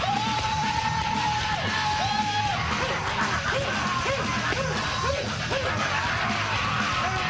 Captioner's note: intense metal music; screaming